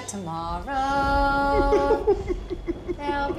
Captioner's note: weeping